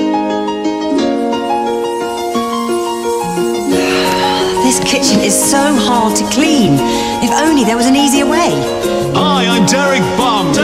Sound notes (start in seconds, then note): 3.8 sigh